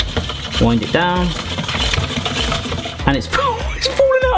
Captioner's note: spiralizer scraping; laughs